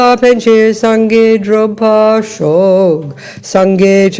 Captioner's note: French